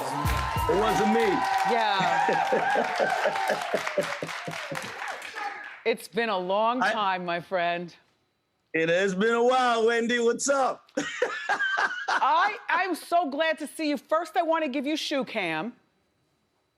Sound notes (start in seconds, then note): 2.0 laughs; 10.9 laughs